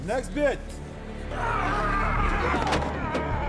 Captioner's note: yelling